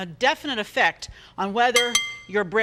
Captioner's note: glass clanging